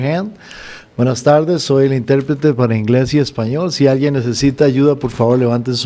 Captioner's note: speaks in a foreign language